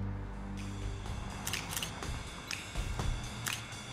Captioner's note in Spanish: clics del obturador